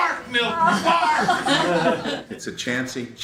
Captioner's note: audience laughs